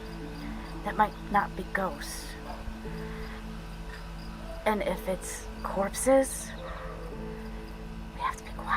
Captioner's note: whispering